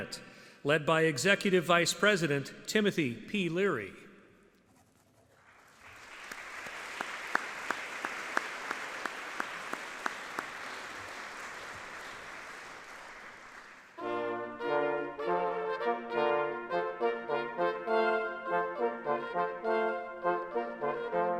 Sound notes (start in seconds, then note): 8.3 audience clapping; 17.1 classical music